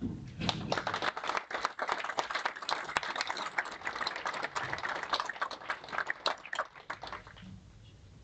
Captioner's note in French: applaudissements